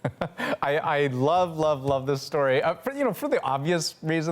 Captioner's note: laughter